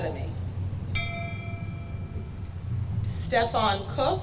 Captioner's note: bell rings